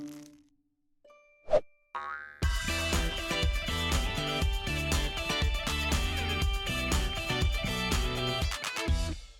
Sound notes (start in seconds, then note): 2.1 ball bouncing; 2.4 upbeat music